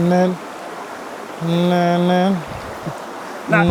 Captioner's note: humming